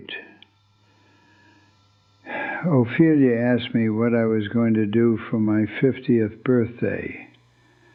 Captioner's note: sighs